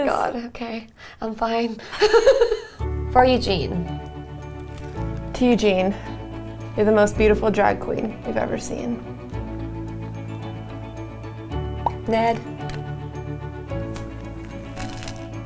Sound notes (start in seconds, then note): 1.9 giggling; 9.6 lighthearted music